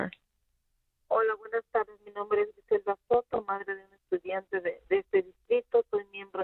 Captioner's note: speaking Spanish